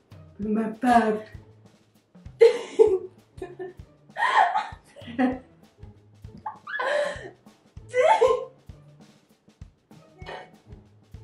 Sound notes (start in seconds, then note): 2.0 giggling